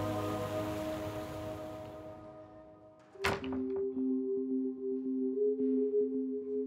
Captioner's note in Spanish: sonido al cerrar la puerta